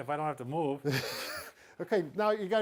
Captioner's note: chuckles